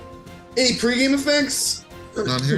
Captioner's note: laughs